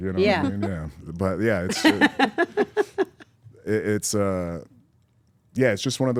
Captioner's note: laugh